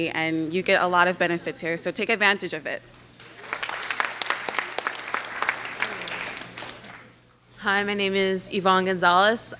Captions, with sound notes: and you get a lot of benefits here so take advantage of it. (clapping) - Hi my name is Evonne Gonzalez,